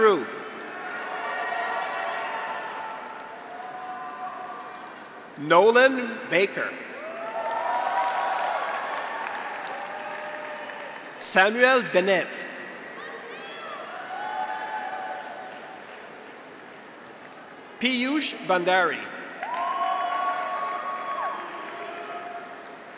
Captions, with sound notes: (graduates cheer) (audience applauds) Nolan Becker. (graduates cheer) (audience applauds) Samuel Bennett. (graduates cheer) (audience applauds) Piyush Bhandari. (graduates cheer) (audience applauds)